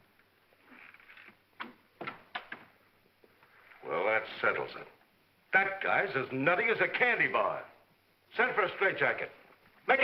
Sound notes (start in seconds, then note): 2.0 door closes gently